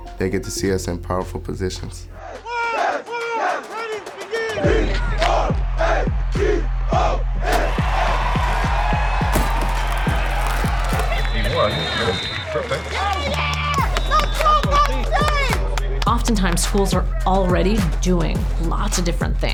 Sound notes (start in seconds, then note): 2.3 cheering and game sounds